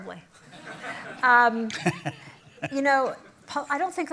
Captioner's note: laughter